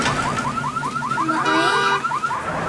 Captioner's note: car alarm